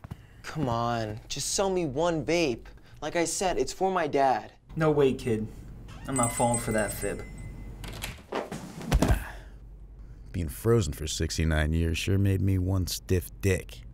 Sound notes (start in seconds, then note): 6.1 bell jingles